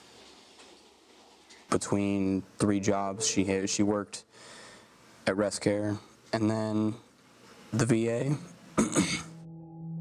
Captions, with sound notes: between three jobs. She worked at Rest Care and then the VA. (clears throat)